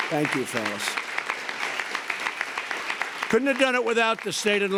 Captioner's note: applause